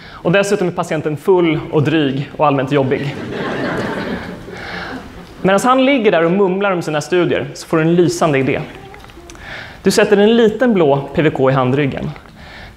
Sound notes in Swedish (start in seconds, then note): 2.9 skratt